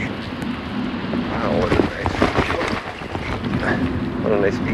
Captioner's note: bumps off trail